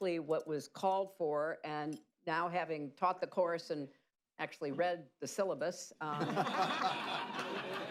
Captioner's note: laughter